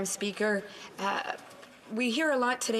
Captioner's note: speaking French